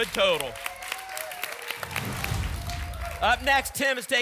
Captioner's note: applause and cheering